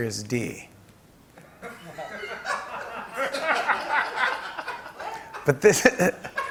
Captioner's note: laughter